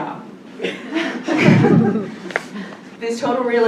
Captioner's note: laughter